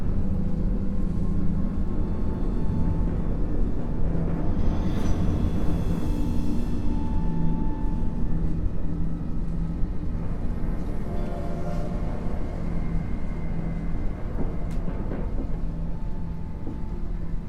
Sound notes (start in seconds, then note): 2.6 dramatic orchestral music; 11.4 train whistle blaring